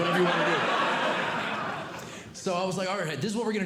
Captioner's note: audience Laughing